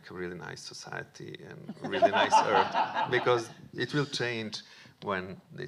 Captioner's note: audience laughing